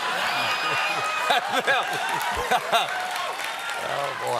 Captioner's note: cheers and applause